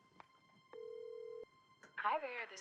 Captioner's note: phone dialing